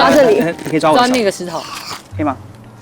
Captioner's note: lizard sound?